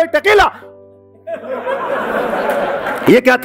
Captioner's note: laughing